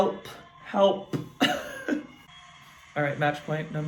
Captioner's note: chuckles